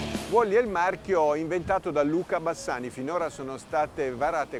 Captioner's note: speaking foreign language